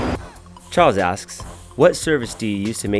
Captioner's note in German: Voice-over